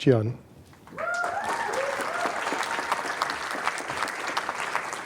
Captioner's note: applause, cheering